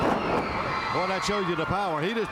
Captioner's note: crowd cheering